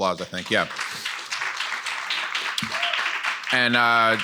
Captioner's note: audience applauding